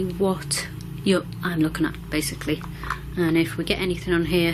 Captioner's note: none